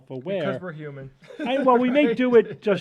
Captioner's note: laughs